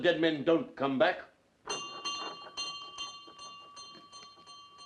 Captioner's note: bell rings